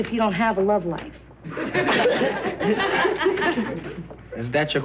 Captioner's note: laughing